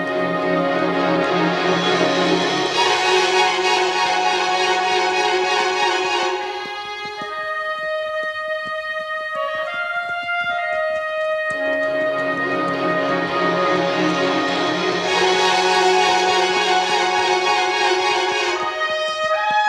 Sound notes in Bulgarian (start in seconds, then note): 0.0 аплодисменти